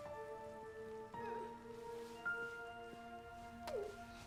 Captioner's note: woman sobs